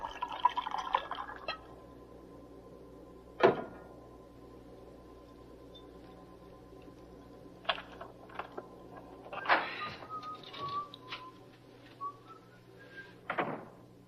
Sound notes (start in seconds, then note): 2.6 bottle clinking; 9.2 door opening; 11.9 David whistling